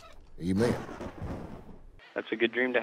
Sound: thunder crashing

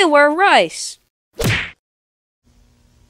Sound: bonk!

